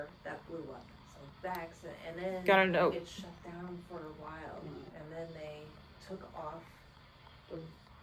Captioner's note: unintelligible static